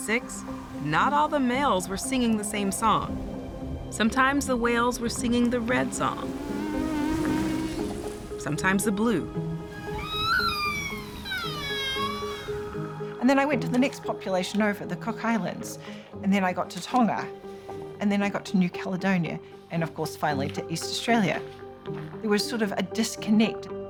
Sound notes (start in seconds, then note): 5.3 low moaning sound; 9.7 high-pitched squealing